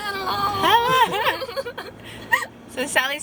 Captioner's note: laughing